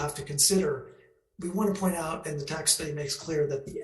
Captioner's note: speaks faintly